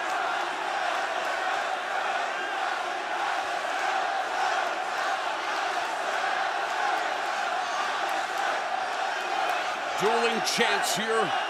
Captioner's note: crowd cheering; crowd chatter